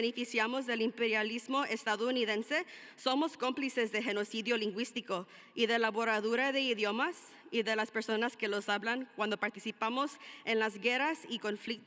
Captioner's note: speaking spanish